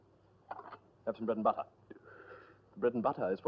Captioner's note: sigh